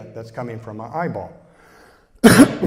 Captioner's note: cough